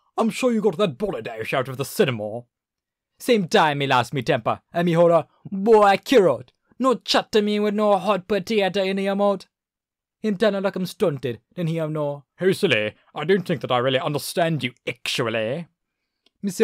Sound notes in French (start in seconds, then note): 2.2 Accent Anglais; 15.5 accent anglais